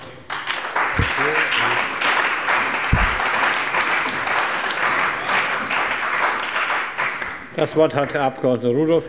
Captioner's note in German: Beifall bei der CDU und dem BÜNDNIS 90/DIE GRÜNEN